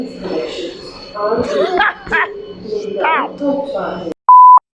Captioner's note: announcement In German